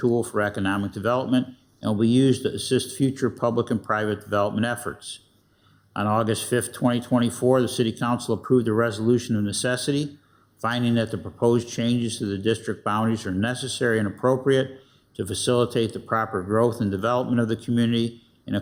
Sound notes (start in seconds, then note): none